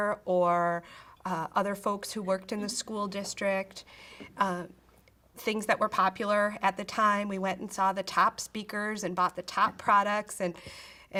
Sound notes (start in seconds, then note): none